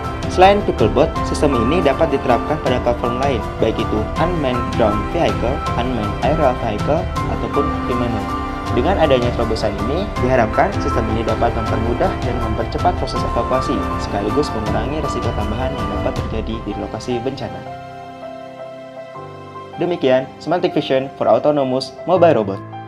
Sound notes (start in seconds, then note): 6.6 drone